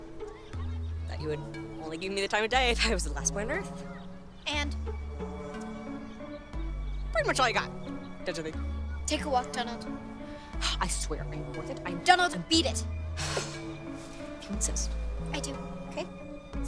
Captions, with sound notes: That you would only give me the time of day if I was the last boy on Earth. And? Pretty much all you got, don't you think? -Take a walk, Donald. -[sighs] I swear, I'm worth it. -I-- -Donald, beat it. -[sighs] If you insist. -I do, okay?